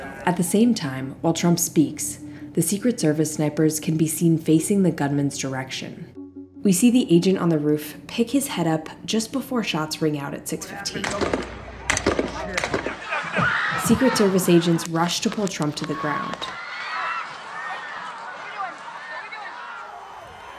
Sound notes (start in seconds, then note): 11.0 three shots crack; 12.8 crowd screams; 17.2 crowd commotion hums